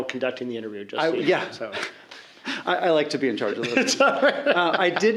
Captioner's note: laughing